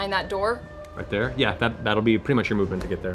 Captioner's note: none